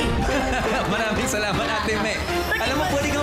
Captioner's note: laughs